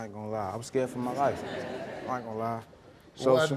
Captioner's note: audience members laugh